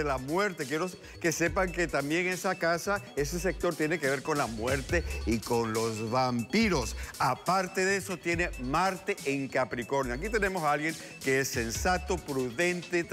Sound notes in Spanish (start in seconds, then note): none